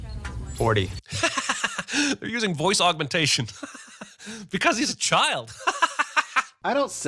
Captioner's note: laughs